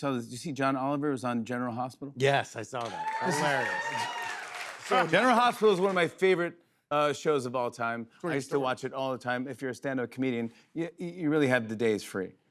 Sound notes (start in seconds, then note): 2.8 cheers and applause